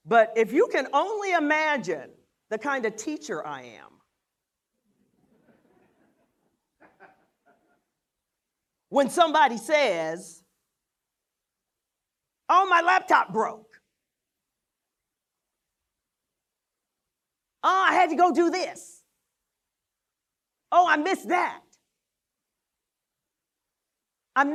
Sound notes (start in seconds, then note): 5.1 laughter